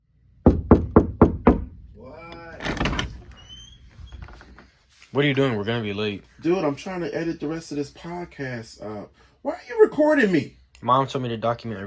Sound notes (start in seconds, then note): 0.4 knocking; 2.2 door creaking